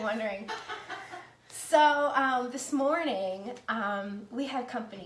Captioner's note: laughing